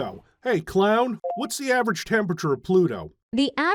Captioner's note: beeping sound of recognition